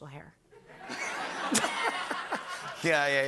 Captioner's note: laughter